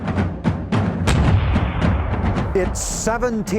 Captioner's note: dramatic music; gun roars